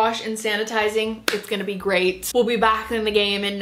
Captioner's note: hands clapping